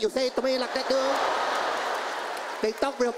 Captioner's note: audience laughs